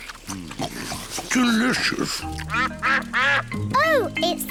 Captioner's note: ducks quack